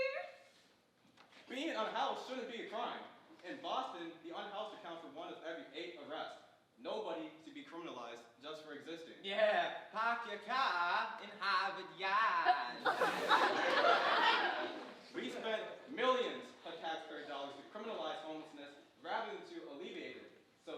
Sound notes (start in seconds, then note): 12.4 group giggling